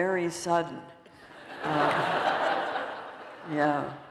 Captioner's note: laughter